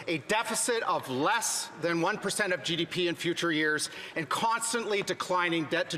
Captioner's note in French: voix de l'interprète